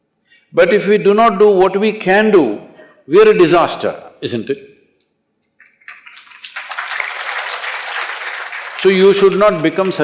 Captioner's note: applause